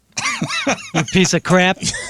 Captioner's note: laughing